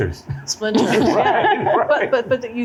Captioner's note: laughter